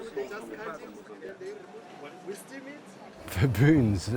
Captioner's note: people chattering